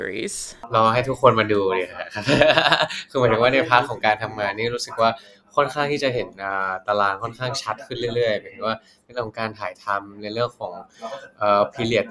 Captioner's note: answering in Thai